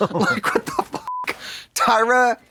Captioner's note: beep